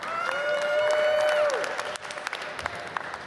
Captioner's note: applause